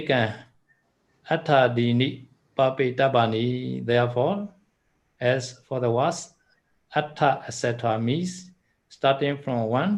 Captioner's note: in-breath out-breath